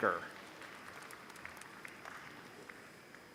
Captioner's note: applause